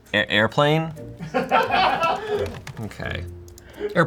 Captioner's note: crew laughs